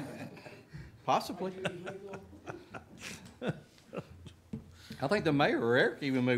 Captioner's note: audience laughing